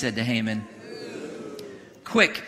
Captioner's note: congregation booing